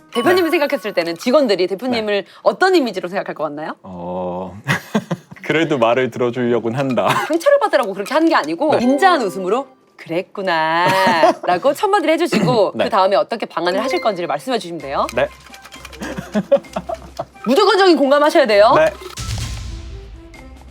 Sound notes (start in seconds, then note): 15.0 shake shake